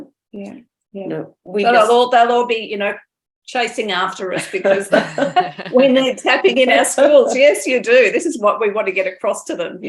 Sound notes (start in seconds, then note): 4.4 laughter